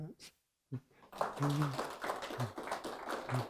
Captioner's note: applause